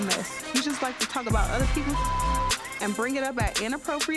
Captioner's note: beep